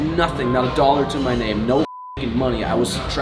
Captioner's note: beep